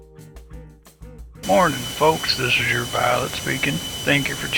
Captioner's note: airplane engine noise